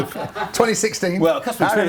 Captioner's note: laughter